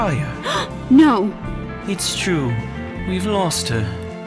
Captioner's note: gasps